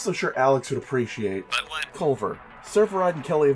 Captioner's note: radio voice